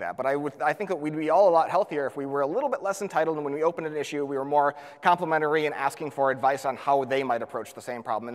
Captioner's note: none